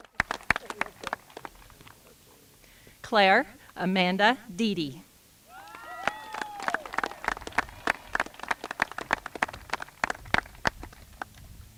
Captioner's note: applause